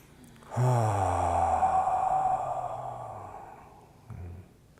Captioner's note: loud exhaling